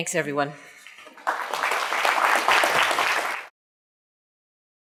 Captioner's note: audience applauding